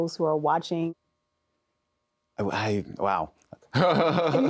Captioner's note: laughs